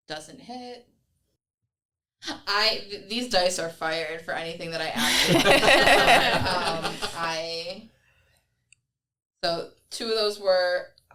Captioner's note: everyone laughs